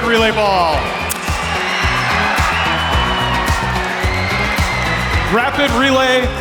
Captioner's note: crowd cheering